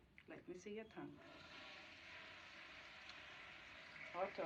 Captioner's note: toilet Flushes